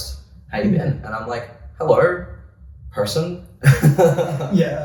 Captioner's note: laughs